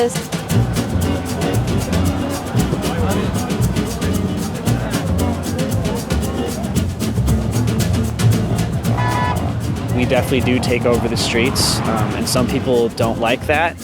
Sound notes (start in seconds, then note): 0.0 ♬ Fast paced jazz music ♬; 9.0 car honks